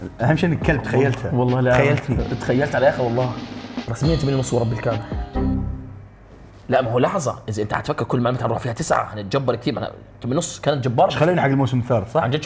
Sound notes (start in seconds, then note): 5.3 cinematic hit